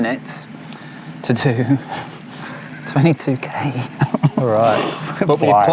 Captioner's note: chuckling